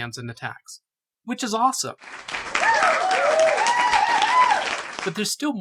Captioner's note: crowd cheers